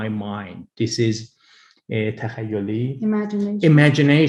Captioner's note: speaks in foreign language